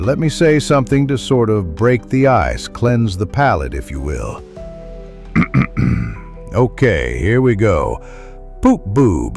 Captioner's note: clears throat